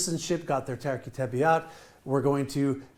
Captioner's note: speaking in foreign language